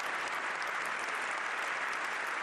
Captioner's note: applause